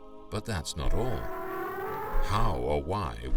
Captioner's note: elephants trumpeting